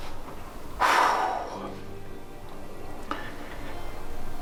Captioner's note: man huffs